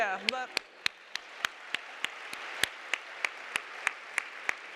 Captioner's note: audience applauding